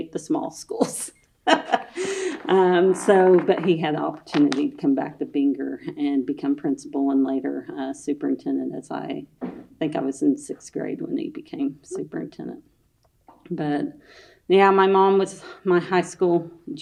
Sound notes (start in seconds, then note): 1.5 laughs